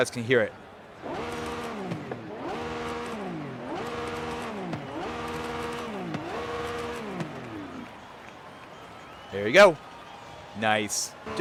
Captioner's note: engine revving